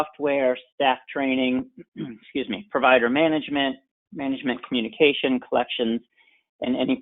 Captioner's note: clears throat